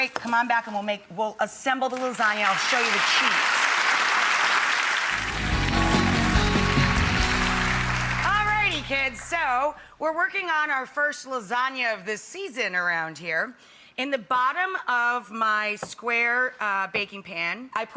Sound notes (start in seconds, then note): 2.2 audience claps; 5.1 upbeat casual music